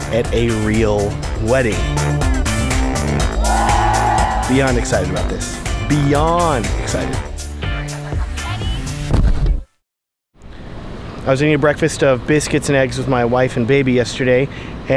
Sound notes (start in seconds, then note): 3.3 crowd cheers; 8.3 upbeat music